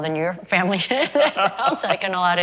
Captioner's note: laughter